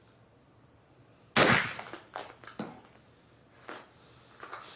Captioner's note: gun shot rings out